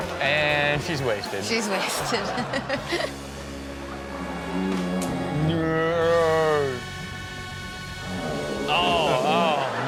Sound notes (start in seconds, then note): 4.4 person snoring